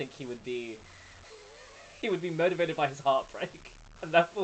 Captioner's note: laughs